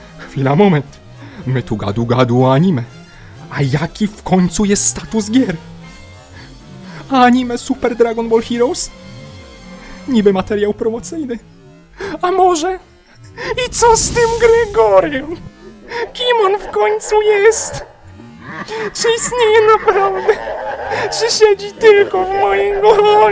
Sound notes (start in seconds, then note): 13.3 flames burst; 20.7 evil laugh in the background